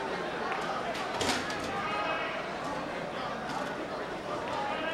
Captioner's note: chair clanging